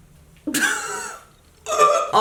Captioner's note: laughter